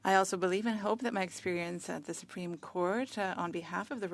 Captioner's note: speaking French